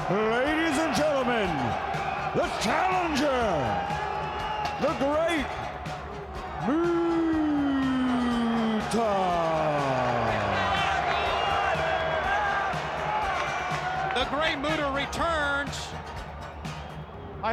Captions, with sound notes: Ladies and gentlemen, the challenger, the Great Muta. (upbeat music) (audience cheers) The great Muta returns.